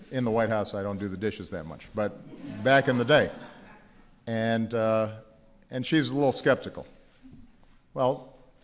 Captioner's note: laughter